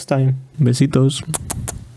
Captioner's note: kiss